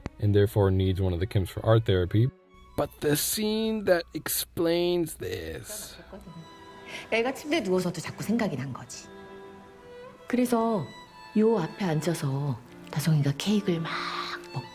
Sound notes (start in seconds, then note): 6.9 speaking Korean